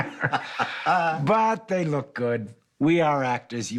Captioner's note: laughs